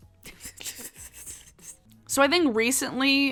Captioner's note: laughing